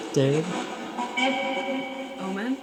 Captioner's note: ghostly Voice